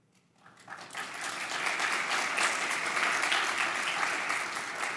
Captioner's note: audience applauding